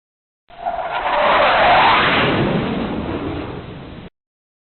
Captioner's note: airplane flyover